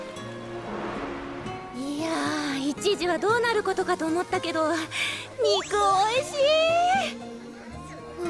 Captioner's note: sigh